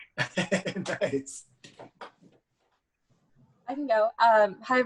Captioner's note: laughs